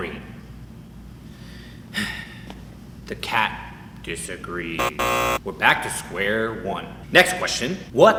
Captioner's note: sighs